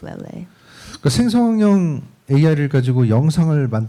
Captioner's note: speaking korean